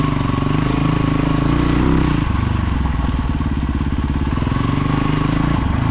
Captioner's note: engine revving